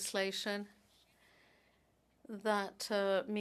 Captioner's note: speaking French